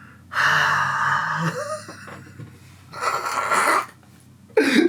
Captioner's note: sighs and laughs